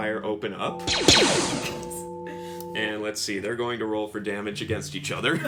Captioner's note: blaster noises